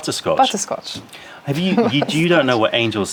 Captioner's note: laughter